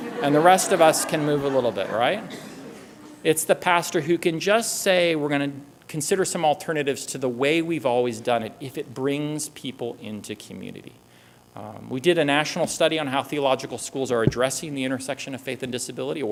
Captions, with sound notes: And the rest of us can move a little bit. Right? [laughter] It's the pastor who can just say, we're going to consider some alternatives to the way we've always done it if it brings people into community. We did a national study on how theological schools are addressing the intersection of faith and disability,